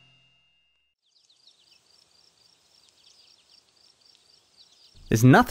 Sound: leaves rustling, birds chirping

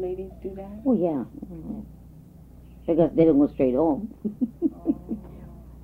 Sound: laughs

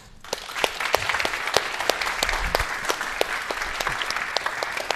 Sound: attendees applauding

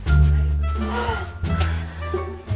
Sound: gasp

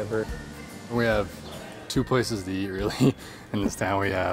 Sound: laughs

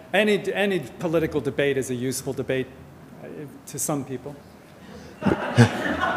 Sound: audience laughter

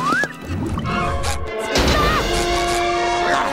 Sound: shrieking

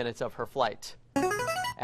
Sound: buzzer plays

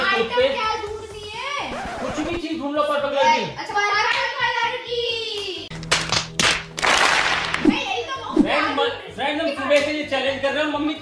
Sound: applause

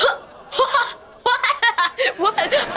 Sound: laughing

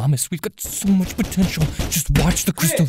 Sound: knocking on door

